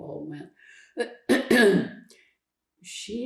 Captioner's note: clears throat